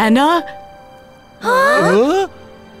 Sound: all gasp

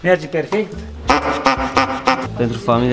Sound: honks

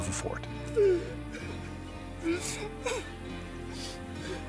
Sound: clyman crying

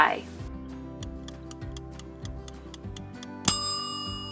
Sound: timer ticking; timer dings

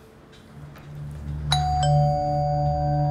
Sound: calling Bell

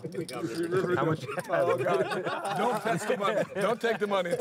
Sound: laughing

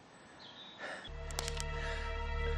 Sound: twig breaks

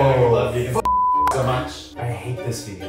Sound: beep

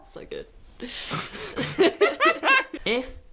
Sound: both laugh

